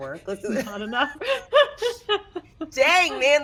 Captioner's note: laughs